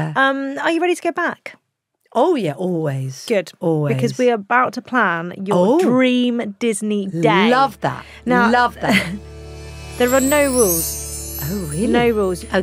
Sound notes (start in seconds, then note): 9.4 chimes tinkling